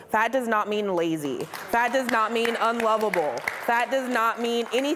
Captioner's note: audience applauding